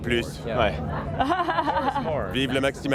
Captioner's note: laughter